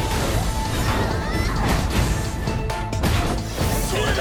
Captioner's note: yelling and thuds